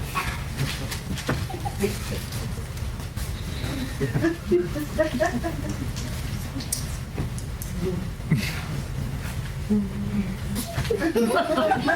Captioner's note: laughter